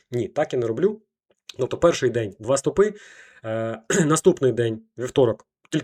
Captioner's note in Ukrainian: прочищення горла